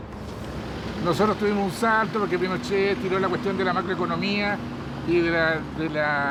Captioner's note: speaking in foreign language